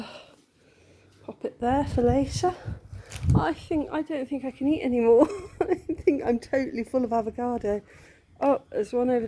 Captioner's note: laughing